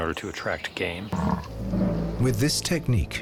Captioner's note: bison grunts